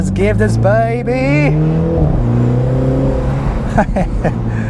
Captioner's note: hard acceleration and engine revving